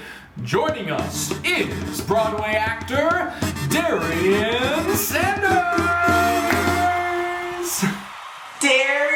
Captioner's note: cheers